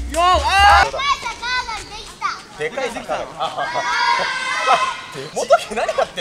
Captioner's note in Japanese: 少年たちの声